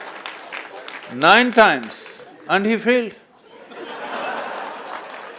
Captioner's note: laughter/Applause